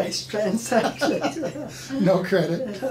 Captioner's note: laughing